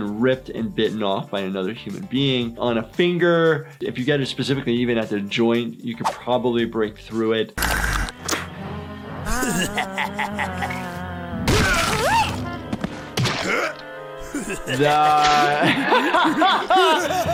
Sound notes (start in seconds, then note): 9.2 Flippy laughing maniacally; 11.4 Handy screams; 14.2 Flippy laughing maniacally; 14.2 laughs